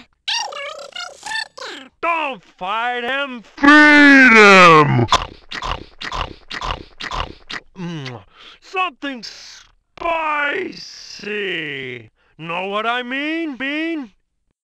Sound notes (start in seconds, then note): 3.6 munching